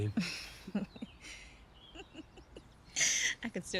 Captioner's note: Edith laughing